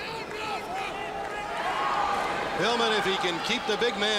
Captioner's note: crowd chatter; crowd cheering